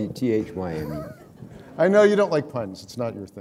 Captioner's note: laughter